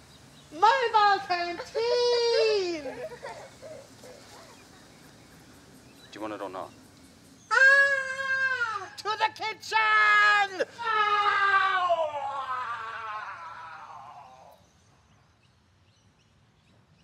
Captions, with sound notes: - Mobile canteen! - Do you want it or not? (squeals) - To the kitchen! (yells)